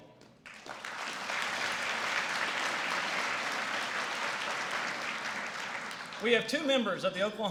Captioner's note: applause